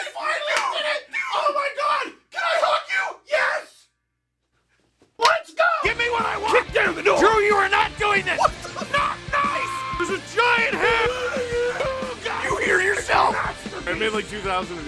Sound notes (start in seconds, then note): 10.3 Harry potter screaming; 10.3 screaming